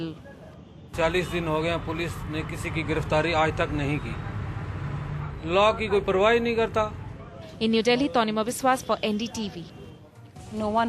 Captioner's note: man speaking in a foreign language